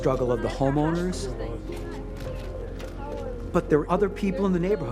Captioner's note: talking in background